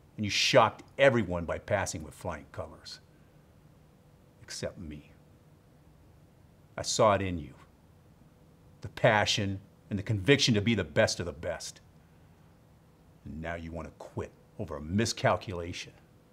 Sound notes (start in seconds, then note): none